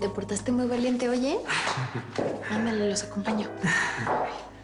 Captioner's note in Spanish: El ríe